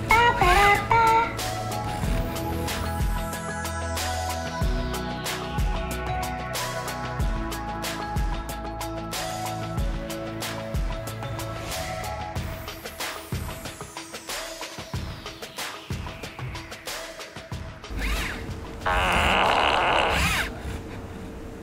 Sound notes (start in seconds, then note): 3.5 bright music; 18.8 farting loudly